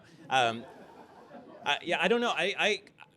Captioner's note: laughter